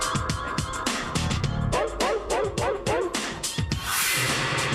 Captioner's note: dog Barking